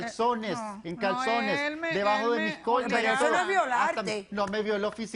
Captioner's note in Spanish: Hablan al unísono